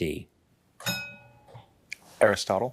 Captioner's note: bell dings